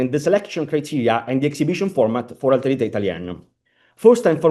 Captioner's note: italian